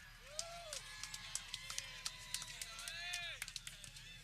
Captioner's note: people clapping